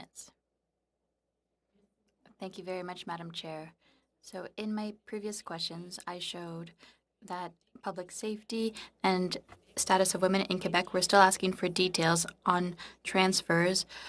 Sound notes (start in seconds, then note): 1.7 speaking French